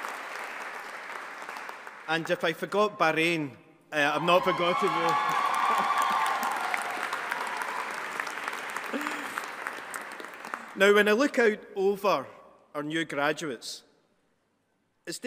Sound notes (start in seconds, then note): 4.1 audience applauding and cheering; 4.9 laughs